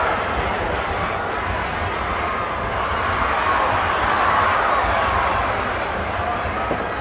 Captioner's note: crowd talking indistinctly continues